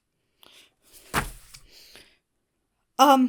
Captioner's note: book slaps onto desk